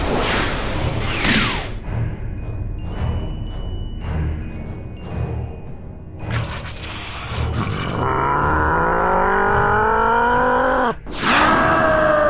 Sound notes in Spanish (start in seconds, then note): 6.4 Gruñidos; 11.3 Grita dolorosamente